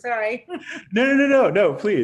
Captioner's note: laughs